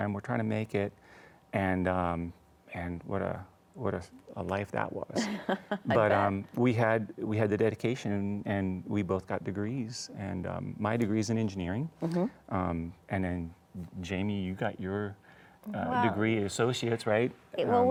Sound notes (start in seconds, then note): 5.2 chuckles